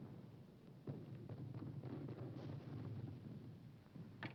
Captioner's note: none